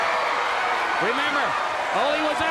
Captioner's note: crowd cheering